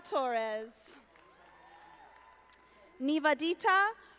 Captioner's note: audience applauding